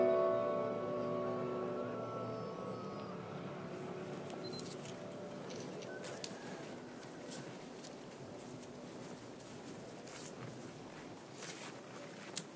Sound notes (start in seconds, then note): 4.4 camera beeps and clicks; 9.2 footsteps rustling